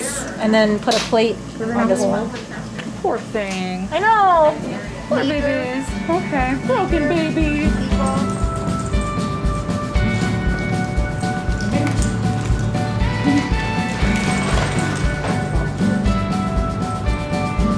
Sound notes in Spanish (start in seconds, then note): 8.5 Juguete tintineante